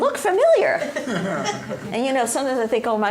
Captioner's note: laughter